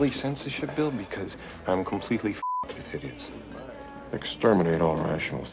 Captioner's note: beep